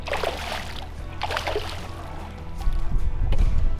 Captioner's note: water splashes